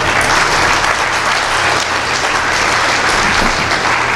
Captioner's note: applause